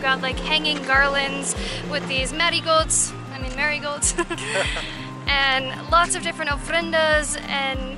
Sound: laughter

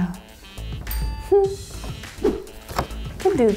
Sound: image pops; hums in triumph; image whooshes; card rustles

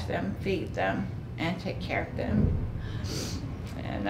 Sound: sniffling

